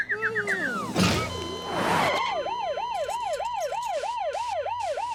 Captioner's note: ambulance sirens